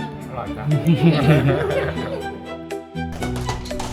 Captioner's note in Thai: เสียงหัวเราะ